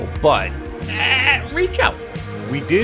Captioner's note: struggling noises